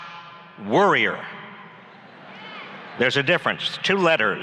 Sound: laughs

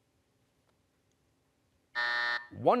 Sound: buzzer

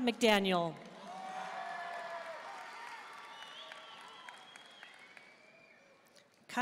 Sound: audience cheering and applauding

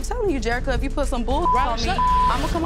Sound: beep

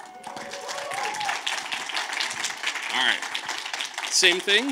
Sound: audience claps

